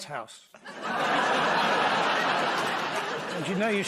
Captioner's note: laughter